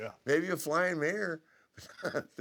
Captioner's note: laugh